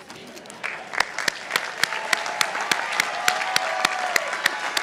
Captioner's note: participants applauding